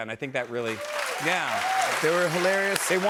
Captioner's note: cheers and applause